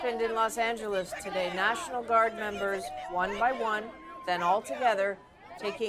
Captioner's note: crowd Noise